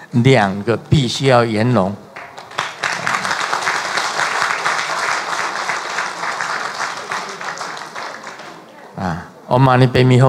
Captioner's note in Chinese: 眾鼓掌